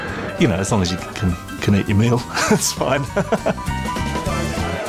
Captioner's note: laughs